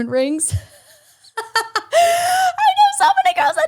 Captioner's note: laughs